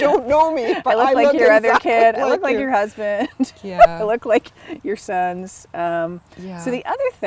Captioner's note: laughter